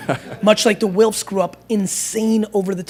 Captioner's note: laughter